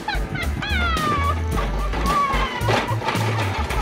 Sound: laughs; bucket clanks

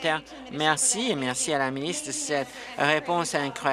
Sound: applause

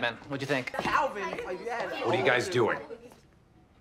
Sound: group chatter; chatter stops

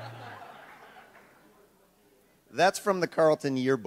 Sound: audience laughs

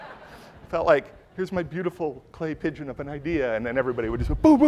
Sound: laughter

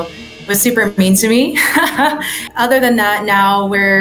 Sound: woman laughs

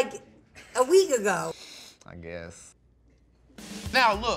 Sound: sniffs

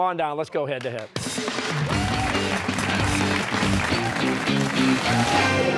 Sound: cheers and applause

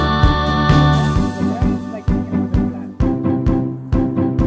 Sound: chattering; uplifting music

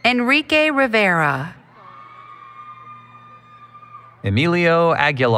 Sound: applause, Cheering

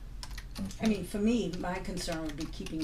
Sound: voiceover

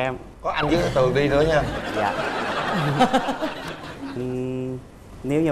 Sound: laughter

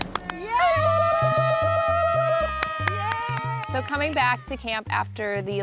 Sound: cheering

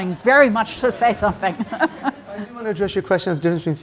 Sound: chuckles

